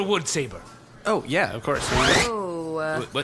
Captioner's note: zipper noises